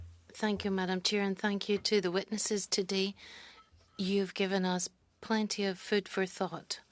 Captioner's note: speaking French